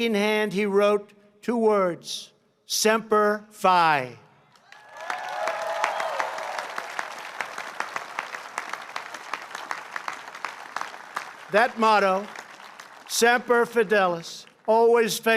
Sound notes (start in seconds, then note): 4.5 applause